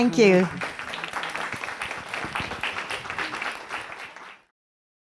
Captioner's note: audience applauds